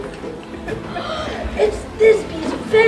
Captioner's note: gasps